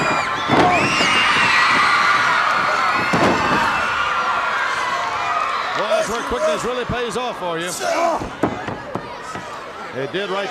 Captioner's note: crowd cheering